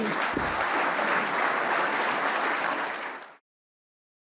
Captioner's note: applause